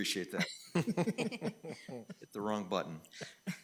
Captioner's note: laughing